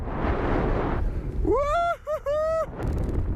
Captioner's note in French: il crie de joie